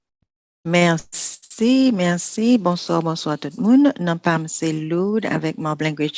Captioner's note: speaking foreign language